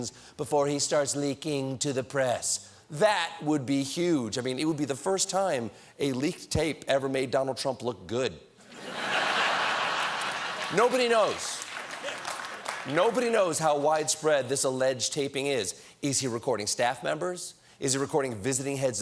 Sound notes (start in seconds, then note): 8.6 laughter